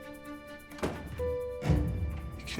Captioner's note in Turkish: Kapı kapanma sesi